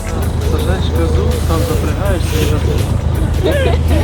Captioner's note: laughter